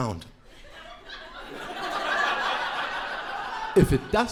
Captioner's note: crowd laughing